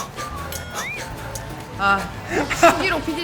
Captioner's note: scoff